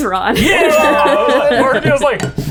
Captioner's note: laughing; bell dings